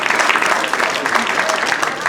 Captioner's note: applause